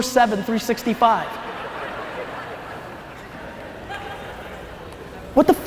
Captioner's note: audience laughs